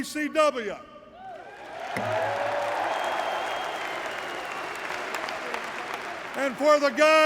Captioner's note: applause